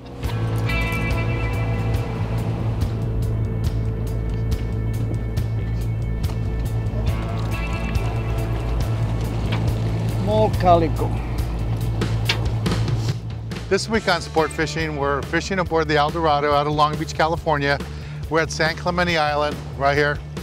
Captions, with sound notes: [background music] [water splashing] Small calico. This week on Sportfishing... we are fishing aboard the El Dorado at Long Beach, California. We are at San Clemente Island right here&